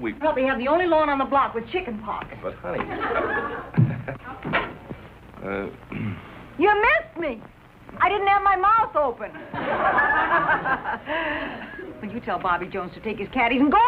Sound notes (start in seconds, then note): 2.9 chuckles nervously; 4.2 clears throat